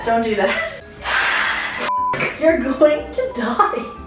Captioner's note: blender whirrs